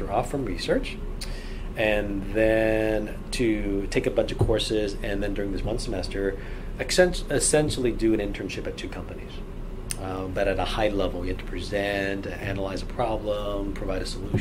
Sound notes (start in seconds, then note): none